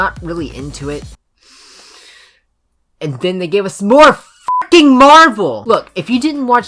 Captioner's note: inhale